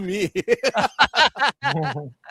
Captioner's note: laughter